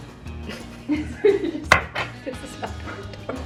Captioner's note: laughs